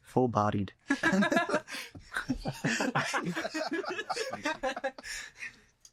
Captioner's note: laughter